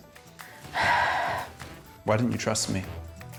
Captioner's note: sighs